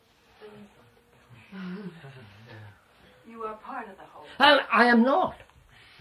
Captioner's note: laughs